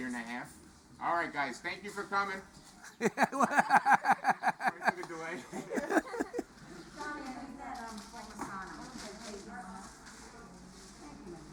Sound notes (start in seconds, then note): 2.9 laughs; 6.7 people chattering